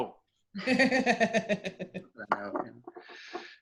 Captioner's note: laughing